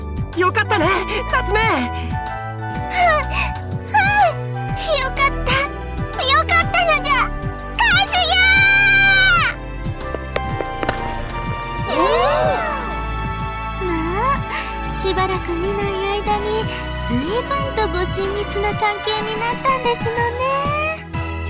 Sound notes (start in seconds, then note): 10.8 intrigued hums